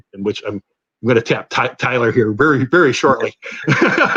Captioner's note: laughter